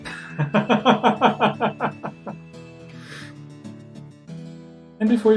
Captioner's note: laughs